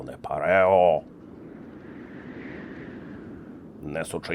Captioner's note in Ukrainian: сильний вітер